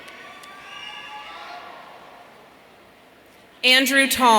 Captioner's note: audience cheering